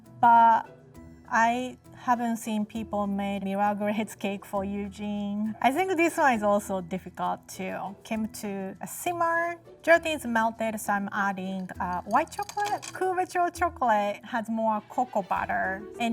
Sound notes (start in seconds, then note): none